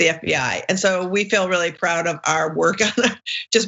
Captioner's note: laugh